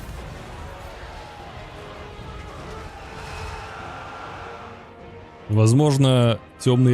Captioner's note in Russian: крик